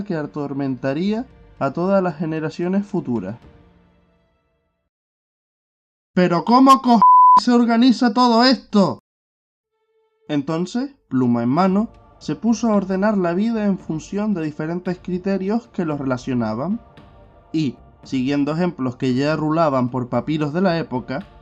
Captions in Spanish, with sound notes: atormentaría a todas las generaciones futuras [Silencio] ¡Pero ¿cómo co***** (pitido) se organiza todo esto?! Entonces, pluma en mano, se puso a ordenar la vida en función de diferentes criterios que los relacionaban Y, siguiendo ejemplos que ya rulaban por papiros de la época,